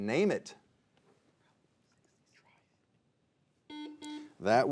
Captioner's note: players whispering; buzzer beeping